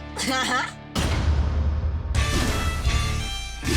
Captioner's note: laughing; loud boom; dramatic music